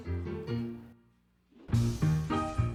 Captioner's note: jaunty piano music; loud sizzling